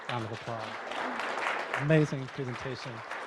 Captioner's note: applause